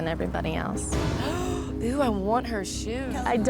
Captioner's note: gasping